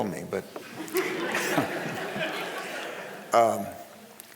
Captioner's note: crowd laughing